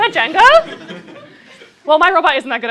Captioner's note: laughter